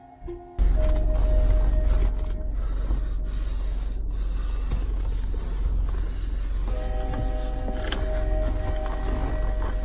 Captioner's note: breathing heavy